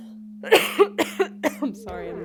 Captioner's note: coughing